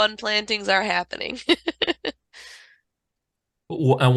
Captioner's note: chuckling